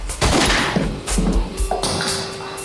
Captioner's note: gun fires